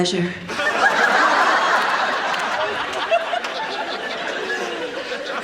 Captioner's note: audience laughs